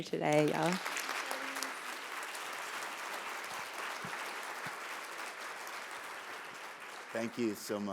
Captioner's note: applause